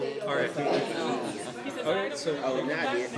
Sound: chatter

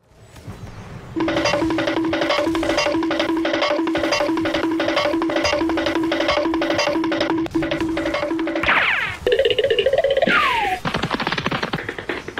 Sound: cartoon running noise Sound effects

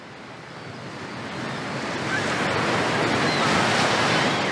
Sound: waves crashing

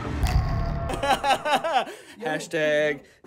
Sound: laughter

